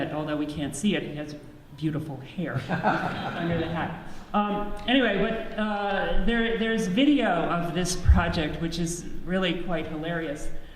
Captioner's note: audience laughs